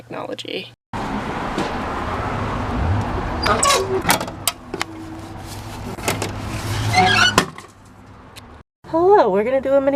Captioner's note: general road/parking lot noises, chute squeals upon opening